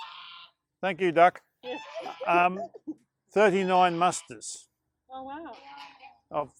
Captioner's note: laughter